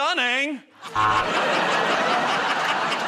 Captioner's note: laughter and applause; buzzer